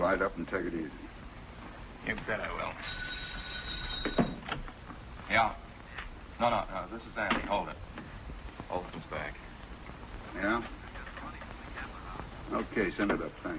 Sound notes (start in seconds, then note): 2.8 phone ringing